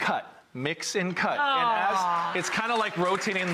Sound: applause

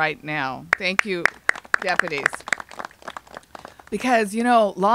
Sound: applauding

